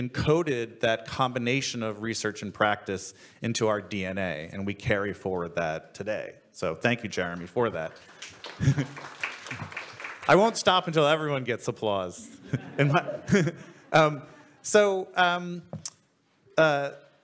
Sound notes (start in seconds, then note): 7.7 audience and panel applaud; 12.2 audience laughs